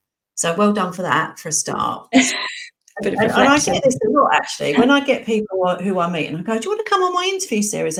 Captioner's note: laughing